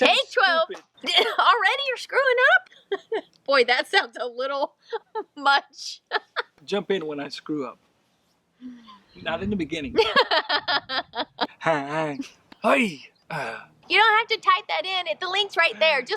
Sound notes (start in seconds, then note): 10.0 laughs